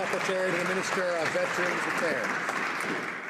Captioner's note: some Applause